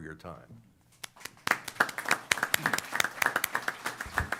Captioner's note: applause